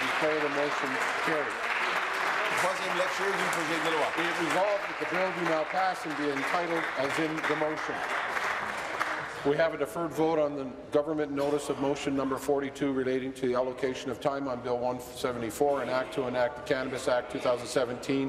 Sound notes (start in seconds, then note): 0.0 applause; 6.1 applause